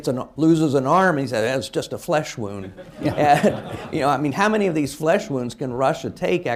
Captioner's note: laughter